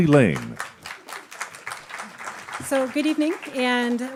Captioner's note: applauding